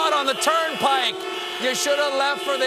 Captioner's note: honking